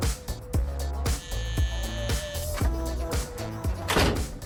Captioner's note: door buzzing